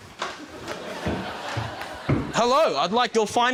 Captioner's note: laughter